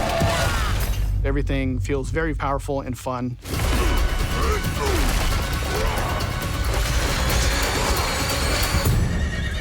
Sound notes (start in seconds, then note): 6.3 grunting and yelling